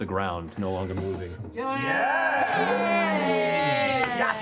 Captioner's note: cheering